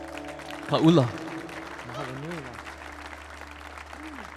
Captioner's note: audience applauding